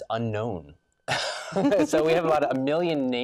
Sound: laughs

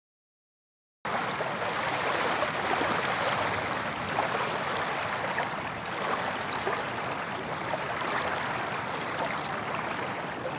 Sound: sound of small waves at lake

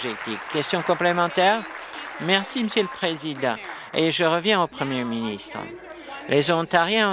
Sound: applause

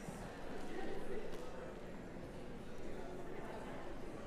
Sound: background conversations

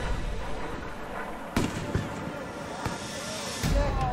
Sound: explosion

